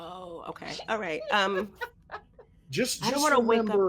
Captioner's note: laughs